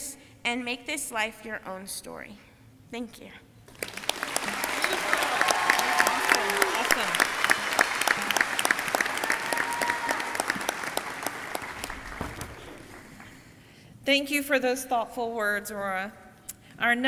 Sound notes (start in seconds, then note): 4.5 audience clapping; 6.4 audience cheering